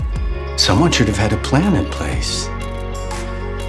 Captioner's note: voiceover